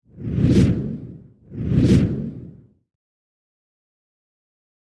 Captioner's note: air whooshing